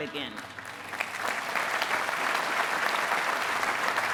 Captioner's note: applause